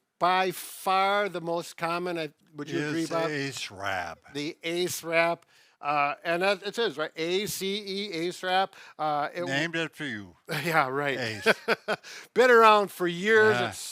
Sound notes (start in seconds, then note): 10.5 laughing